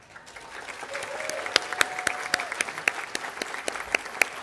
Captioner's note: audience applauding